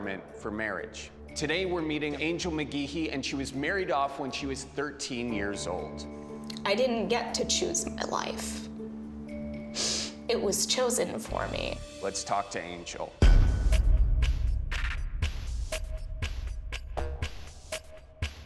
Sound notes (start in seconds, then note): 9.7 sniffles